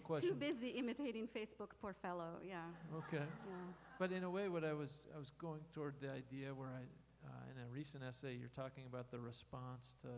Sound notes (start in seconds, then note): 2.8 laughter